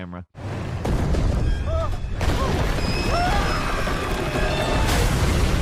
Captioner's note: people screaming; debris crashing